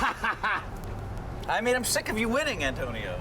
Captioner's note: laughing